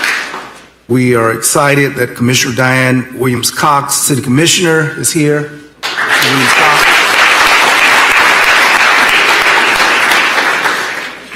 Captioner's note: applause